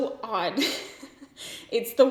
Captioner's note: giggles